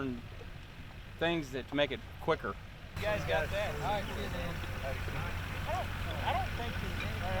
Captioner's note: chatter